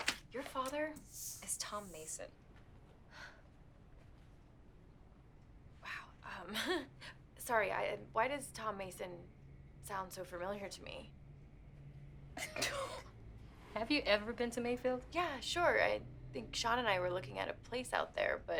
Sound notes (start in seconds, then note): 3.1 Candace exhales; 6.1 laughs nervously; 12.5 Allie and Margot laugh